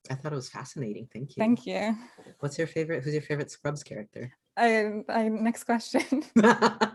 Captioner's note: laughter